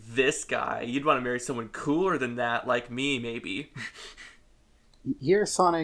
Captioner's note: snickers